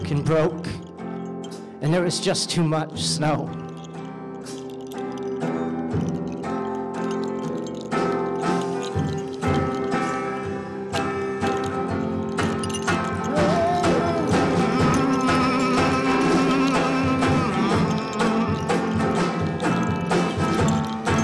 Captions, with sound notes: and broke and there was just too much snow. [HUMMING]